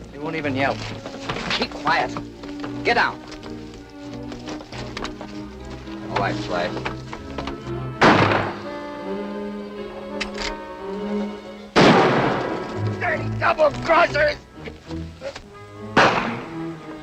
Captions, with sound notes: He won't even yell. Keep quiet. Get out. Go on, Slash. [ GUNSHOT ] [ RIFLE COCKS ] [ GUNSHOT ] Dirty double-crossers! [ GUNSHOT ]